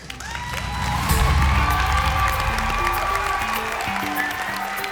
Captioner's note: cheering